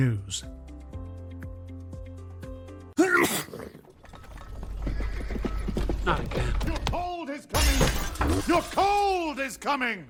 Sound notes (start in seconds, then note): 3.0 sneeze; 5.6 hooves approaching